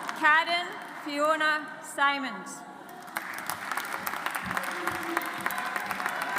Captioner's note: audience applauds